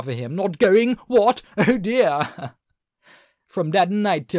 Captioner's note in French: accent anglais